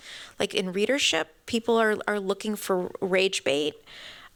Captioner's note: none